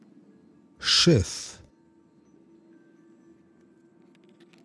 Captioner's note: german